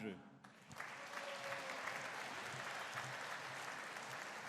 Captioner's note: audience cheering